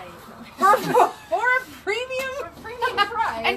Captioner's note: laughs